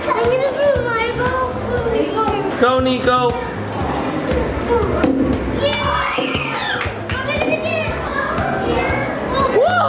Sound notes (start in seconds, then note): 5.8 cheering